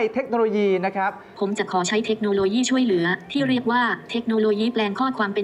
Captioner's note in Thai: เสียง ai